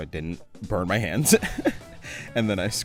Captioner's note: laughs